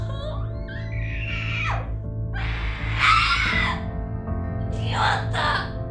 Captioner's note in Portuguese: Grito